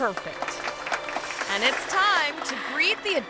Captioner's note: crowd clapping